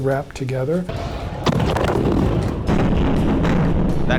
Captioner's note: bombs exploding